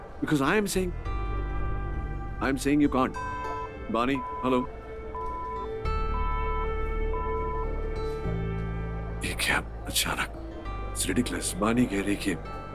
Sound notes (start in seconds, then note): 3.1 Call disconnects